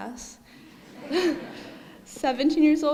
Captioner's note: audience laughing